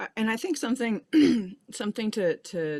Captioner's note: clears her throat